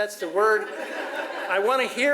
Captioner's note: audience laughs